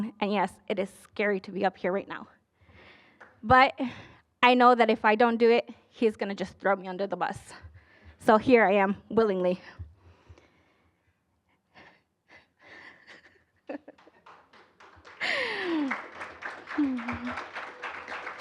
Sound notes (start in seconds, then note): 12.8 giggling; 13.8 applause